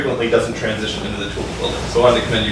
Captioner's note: faintly speaking